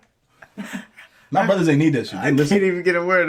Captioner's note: laughing